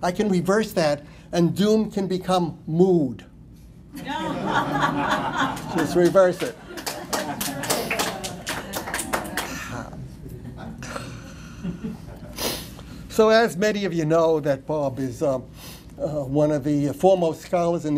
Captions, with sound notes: I CAN BE VERY SAD AND DOOM CAN BECOME MOOD. [LAUGHTER] LET'S REVERSE IT." SO AS MANY OF YOU KNOW, THAT BOB IS ONE OF THE FOREMOST SCHOLARS